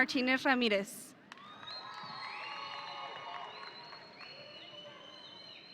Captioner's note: audience cheering